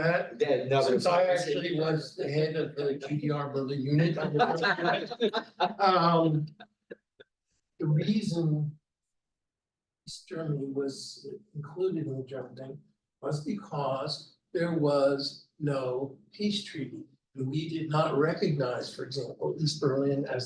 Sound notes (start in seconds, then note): 4.8 panelists laughing